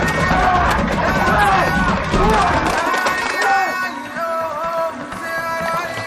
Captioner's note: yelling